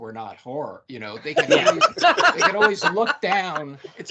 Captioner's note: laughing